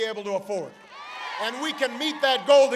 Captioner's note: applause